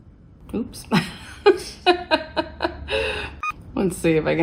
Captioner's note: laughs